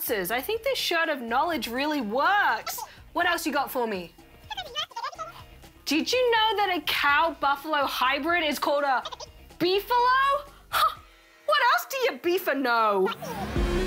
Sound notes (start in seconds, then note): 4.4 high-pitched gibberish; 10.7 high-pitched gibberish